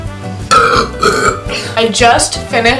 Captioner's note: burps